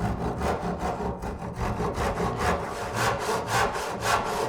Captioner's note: saw scraping